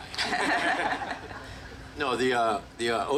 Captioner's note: group laughing